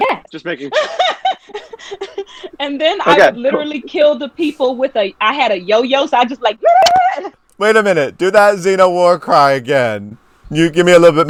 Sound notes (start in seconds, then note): 2.7 laughing; 7.2 squealing